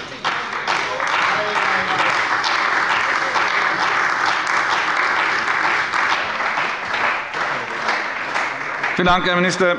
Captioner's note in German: Beifall bei der CDU